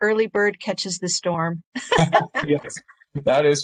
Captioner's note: laughs